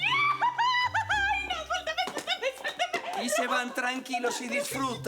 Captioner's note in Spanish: Gritos y exclamaciones